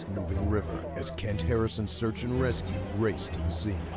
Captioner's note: voiceover